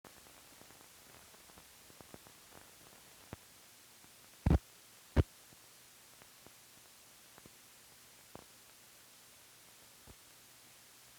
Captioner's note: silence